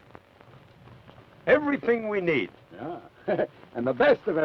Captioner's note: chuckles